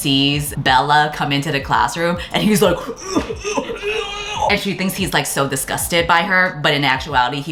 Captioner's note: gagging noises